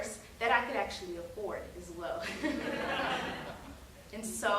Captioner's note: audience laughing